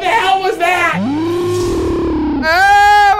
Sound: slow motion scream

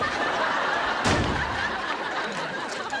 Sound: slams door

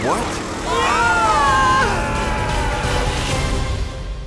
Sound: yelling

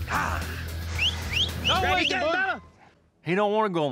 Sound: whistling, yelling

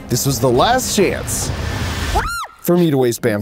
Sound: screams

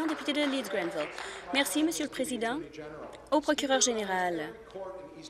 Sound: applause

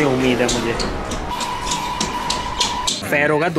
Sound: disappointed parent noises

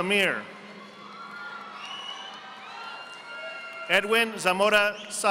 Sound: audience applauding

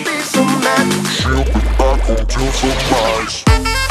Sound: distorted

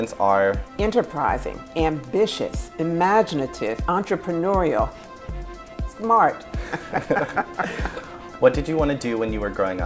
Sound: laughs

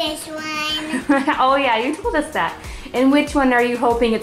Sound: laughing

